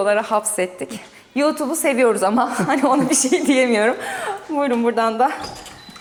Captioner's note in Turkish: kahkaha